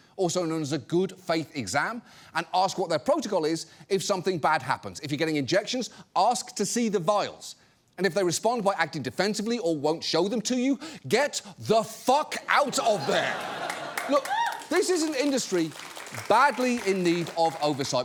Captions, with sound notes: also known as a "good-faith exam," and ask what their protocol is if something bad happens. If you're getting injections, ask to see the vials. And if they respond by acting defensively or won't show them to you, -get the fuck out of there. -(AUDIENCE CLAPS) Look, this is an industry badly in need of oversight